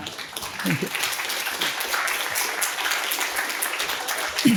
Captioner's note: audience applauding